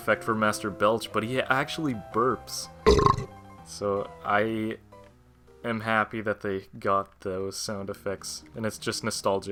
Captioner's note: burp sound